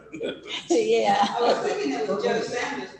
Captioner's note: laughter